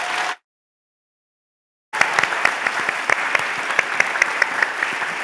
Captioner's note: applause